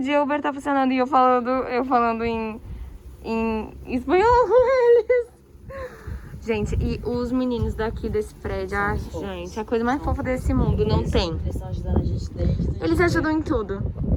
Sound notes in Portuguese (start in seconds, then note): 4.8 risos; 9.7 barulho de vento